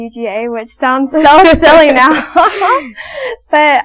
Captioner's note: laughs